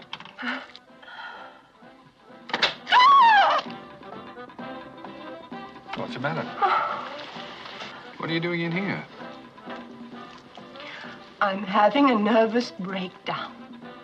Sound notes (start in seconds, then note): 2.5 door opens; 6.5 sighs